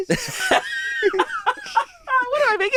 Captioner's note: laughing